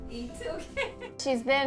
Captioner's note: laughs